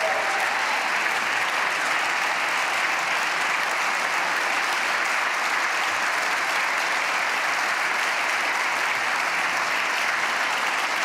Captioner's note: applause